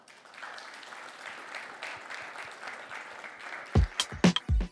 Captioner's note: applause